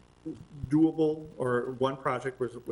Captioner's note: none